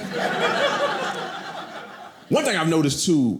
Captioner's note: audience laughing